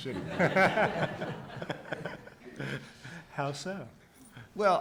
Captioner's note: audience laughs